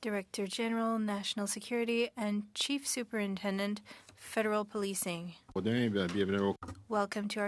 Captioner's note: speaking french